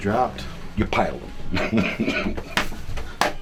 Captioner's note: laughs